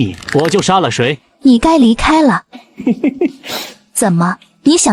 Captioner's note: chuckles